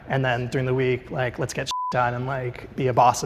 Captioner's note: beeps